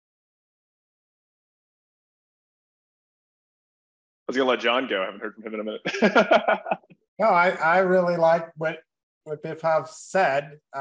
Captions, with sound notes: - I was going to let John go. I haven't heard from him in a minute. (laughs) - No, I really like what Biplav said.